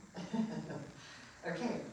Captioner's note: laughing